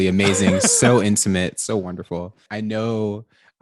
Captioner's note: laughs